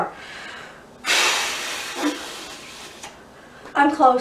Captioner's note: blows air forcefully